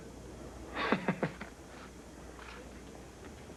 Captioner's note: laughs